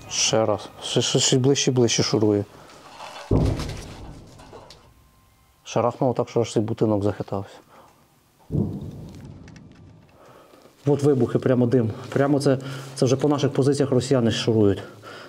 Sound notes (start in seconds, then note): 3.3 sounds of explosions; 8.5 one more explosion